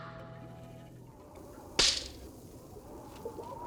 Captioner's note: wind blowing; snapping